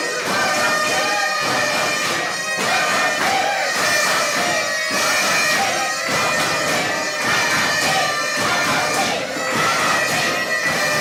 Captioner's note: audience chanting let us speak